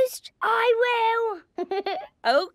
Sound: Danny laughing

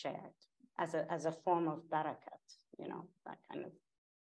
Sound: speaking in Persian

